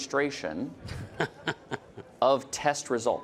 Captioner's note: laughing